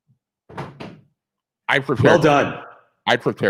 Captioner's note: picture thudding